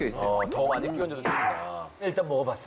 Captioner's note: slurps